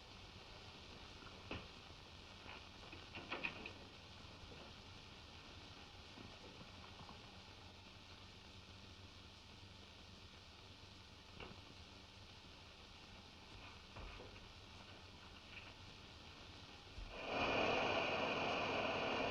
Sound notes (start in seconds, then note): 17.1 whirring